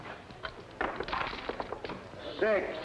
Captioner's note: dice clattering